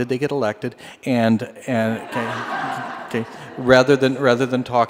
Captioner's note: laughter